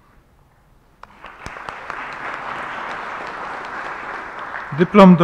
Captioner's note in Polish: oklaski